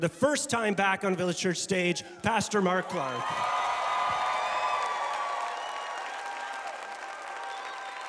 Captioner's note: congregation cheering